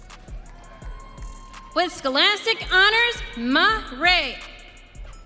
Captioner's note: audience cheering